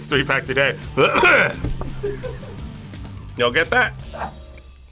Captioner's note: coughs; React laughs